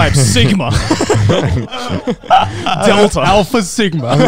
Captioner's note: laughs